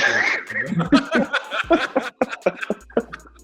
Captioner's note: laughs